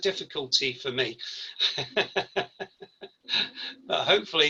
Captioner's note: laughs